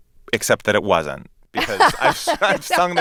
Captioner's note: laughter